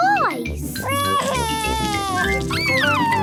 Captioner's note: crying